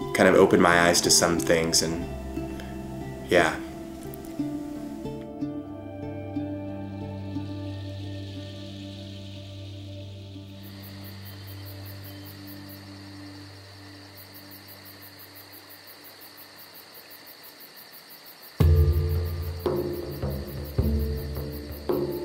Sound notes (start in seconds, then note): 4.3 peaceful music; 10.9 crickets chirping; 18.6 drums